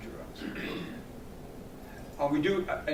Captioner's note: clears throat